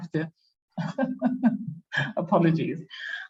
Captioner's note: laughs